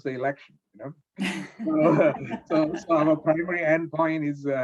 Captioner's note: laughs